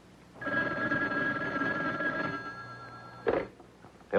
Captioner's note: phone ringing